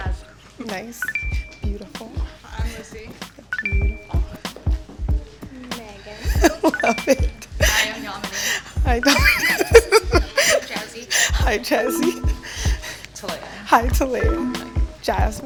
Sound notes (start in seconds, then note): 7.1 chuckles